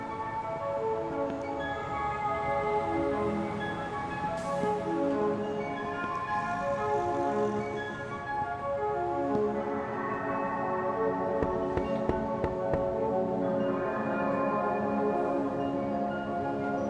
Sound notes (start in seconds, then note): 11.4 knock at door